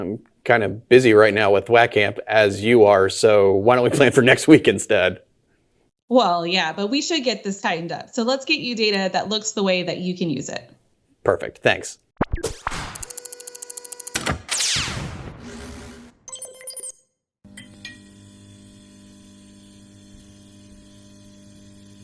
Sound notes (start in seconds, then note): 12.6 letters whirring; 16.9 letters beeping; 16.9 scene whirring